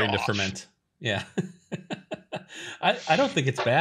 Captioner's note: laughs